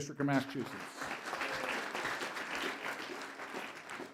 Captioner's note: applause